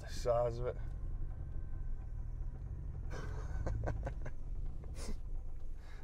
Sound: laugh

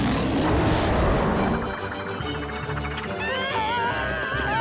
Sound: screaming

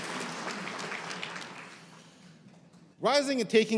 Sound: cheers and applause

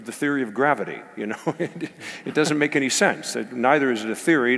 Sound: laugh

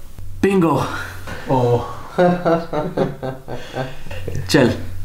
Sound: Abeer laughing

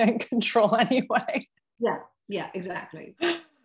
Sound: chuckle

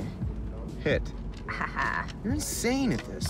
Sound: laughing

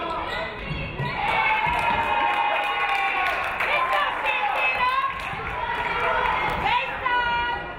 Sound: audience cheering; audience clapping

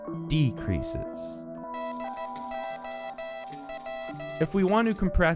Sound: morse code beeping

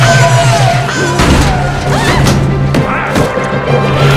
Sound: echoing; shrieking

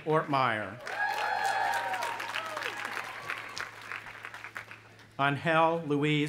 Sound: audience applauding and cheering

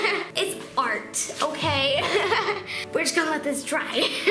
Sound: laughing; laughing

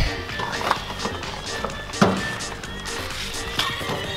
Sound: gold clanging

